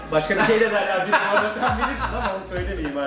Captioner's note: laughs